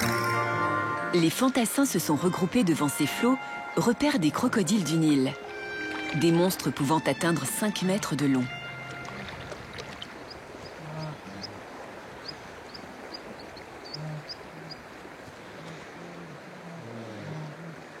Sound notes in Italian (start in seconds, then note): 13.5 cinguettii